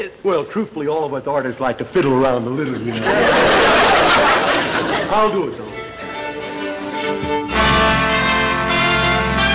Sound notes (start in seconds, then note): 2.7 audience laughter; 6.0 triumphant music